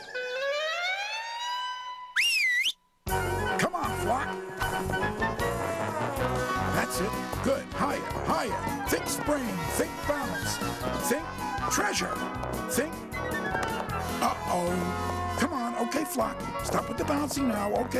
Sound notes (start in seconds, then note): 2.1 whistles